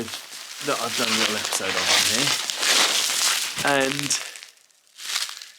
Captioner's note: bubble wrap rustling